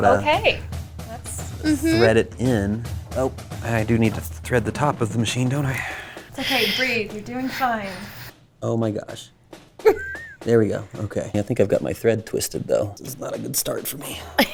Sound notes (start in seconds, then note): 9.8 laughs; 14.3 laughs